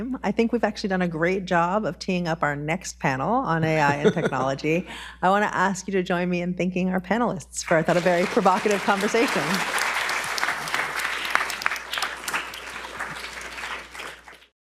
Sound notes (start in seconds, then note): 9.9 audience applauds